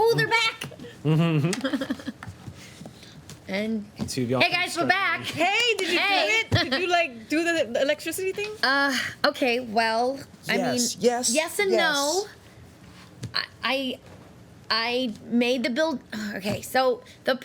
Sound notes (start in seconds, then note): 1.0 laughs